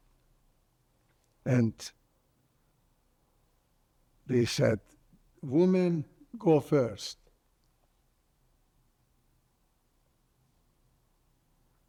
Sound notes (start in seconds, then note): 7.4 pauses 6 seconds